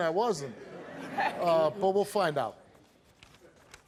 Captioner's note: audience laughs